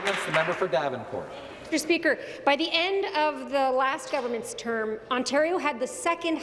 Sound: applause

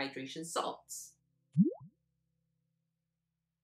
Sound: bloop sound effect

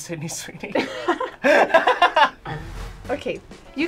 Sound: both laughing

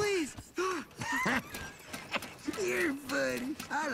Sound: laughing

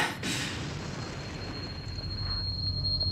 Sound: heavy breathing

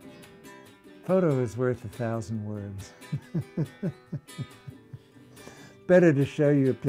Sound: laughter

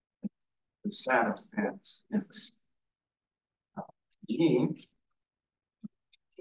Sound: audio distorting

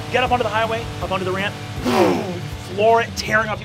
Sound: whooshes

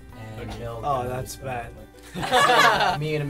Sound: laughter

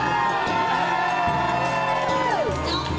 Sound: audience Claps and Cheers

